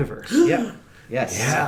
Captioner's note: gasps